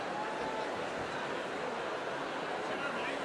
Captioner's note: applause